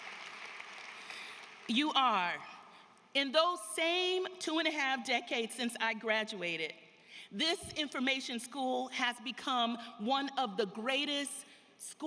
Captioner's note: applause